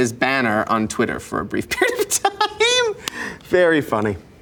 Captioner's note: laughs